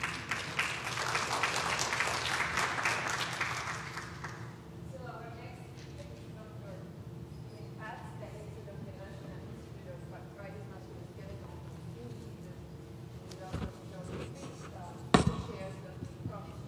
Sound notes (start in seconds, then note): 2.7 applause